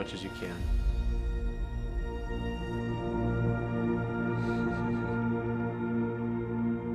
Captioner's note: gentle ethereal music; chuckles